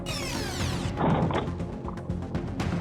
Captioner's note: crash